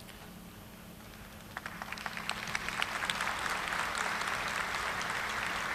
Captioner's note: audience applauding